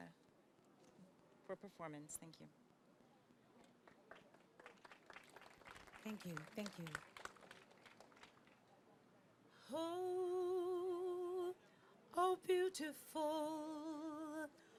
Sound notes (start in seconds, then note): 3.8 applause